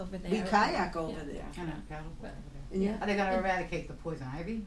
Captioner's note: voiceover